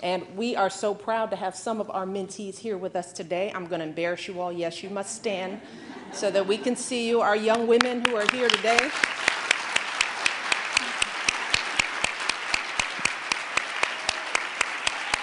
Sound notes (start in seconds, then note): 5.8 laughter